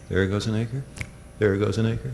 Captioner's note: snaps fingers